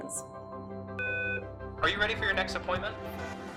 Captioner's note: phone beeps